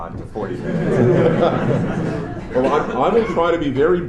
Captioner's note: laughter